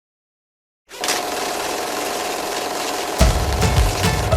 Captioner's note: film rolling